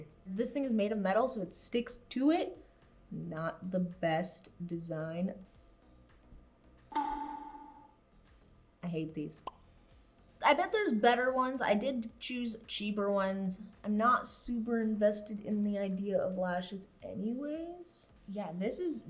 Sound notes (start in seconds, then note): 6.9 boink Sound; 7.8 pop Sound